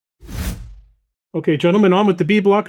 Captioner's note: wind whooshing